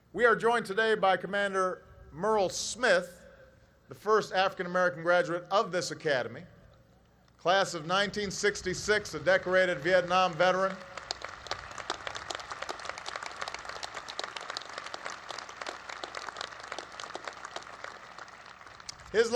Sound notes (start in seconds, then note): 9.3 applause